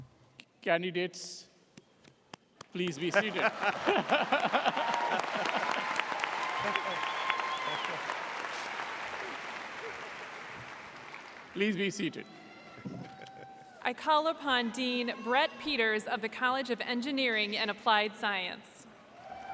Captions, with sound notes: Candidates, please be seated. (laughs) (audience applauds) Please be seated. - I call upon Dean Brett Peters of the College of Engineering and Applied Science.